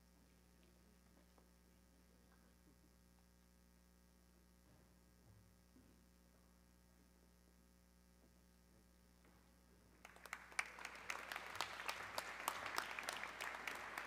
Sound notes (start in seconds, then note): 10.0 audience clapping